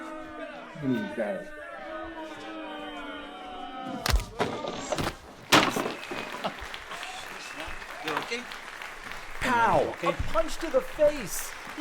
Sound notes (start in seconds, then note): 0.3 audience boos; 4.0 punch thuds; 5.8 audience claps